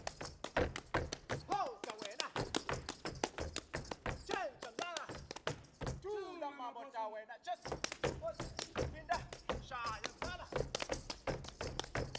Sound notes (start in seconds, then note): 0.0 feet stomping and hands clapping; 4.4 speaking language other than English; 7.6 feet stomping and hands clapping